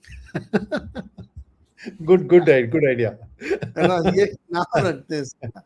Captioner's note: laughs